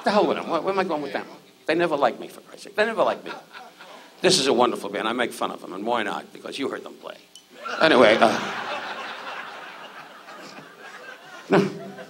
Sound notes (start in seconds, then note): 3.0 audience laughs; 7.6 audience laughs